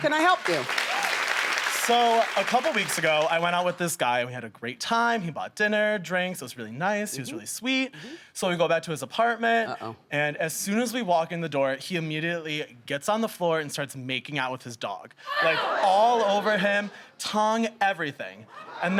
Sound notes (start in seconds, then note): 15.3 audience shrieks in disgust